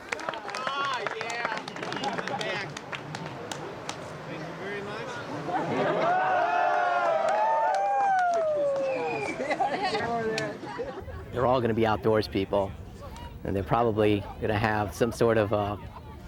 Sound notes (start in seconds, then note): 0.0 onlookers applauding; 5.7 onlooker hollering